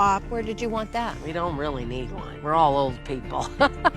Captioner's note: laughs